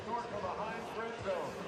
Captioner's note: pa announcement